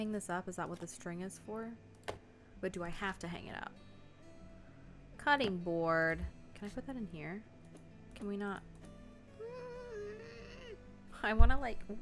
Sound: gremlin grumbling noises

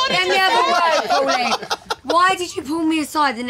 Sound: laughter

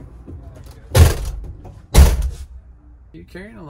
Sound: door slams

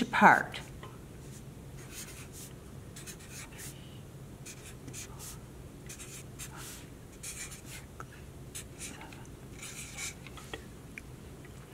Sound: marker scratching sounds

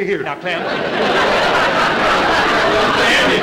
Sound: audience laughter

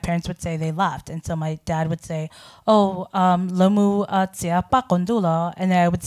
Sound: speaking in foreign language

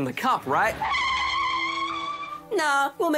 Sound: tyres screech

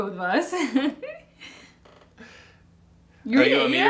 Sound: laughs

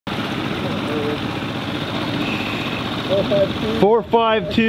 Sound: boat roaring

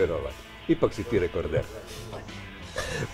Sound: laughs

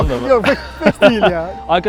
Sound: laughs

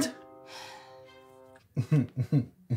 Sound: sighs; chuckles

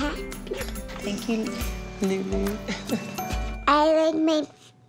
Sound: laughs

